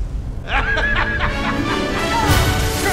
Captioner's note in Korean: 아하하하하핳